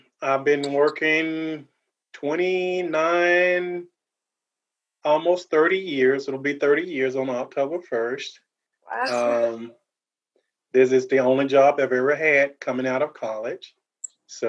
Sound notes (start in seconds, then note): 9.0 giggles